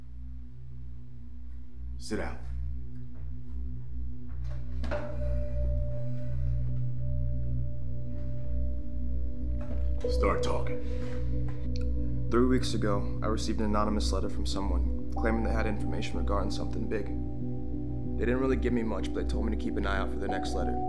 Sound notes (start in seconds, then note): 4.4 chair clacks; 10.8 Samuels sighs